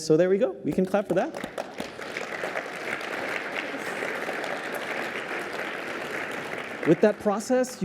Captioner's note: applause